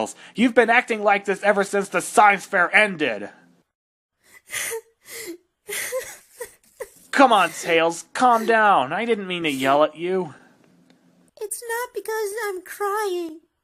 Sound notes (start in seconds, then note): 5.6 crying